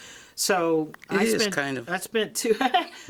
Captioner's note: chuckles